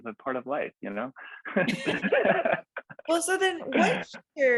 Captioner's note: laughs